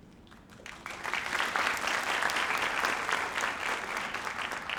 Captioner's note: audience applauds